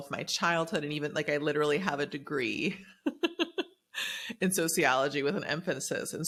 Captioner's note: laughs